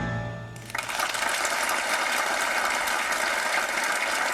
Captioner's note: audience applauding